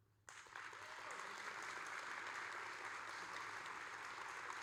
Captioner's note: audience applauding